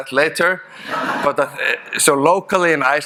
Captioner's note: audience laughing